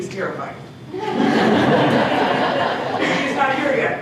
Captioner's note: laughter